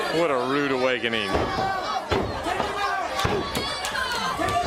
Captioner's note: crowd chatter